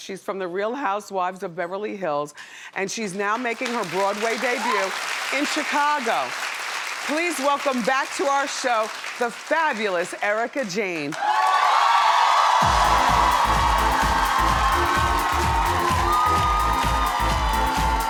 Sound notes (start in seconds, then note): 6.6 audience applauds; 10.9 audience applauds; 11.1 audience cheers; 12.6 dance music